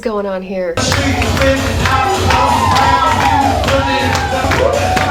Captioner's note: crowd whooping and cheering